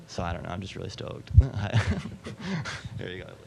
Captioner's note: chuckling